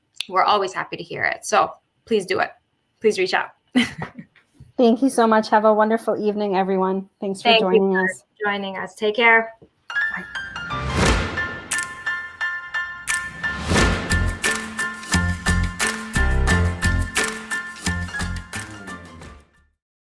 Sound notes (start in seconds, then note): 3.8 chuckle